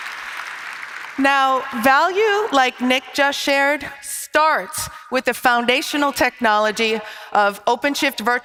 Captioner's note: applause